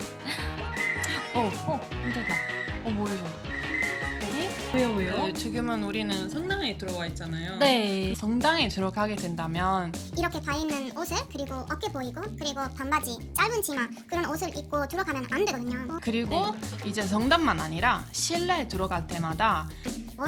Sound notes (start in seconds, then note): 0.7 whistling sound